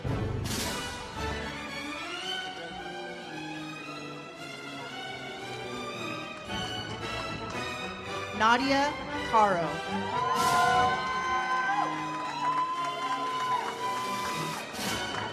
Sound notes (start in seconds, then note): 9.9 audience cheers; 12.3 uplifting music